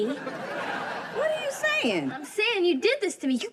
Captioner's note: audience laughing